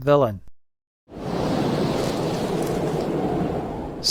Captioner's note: blizzard wind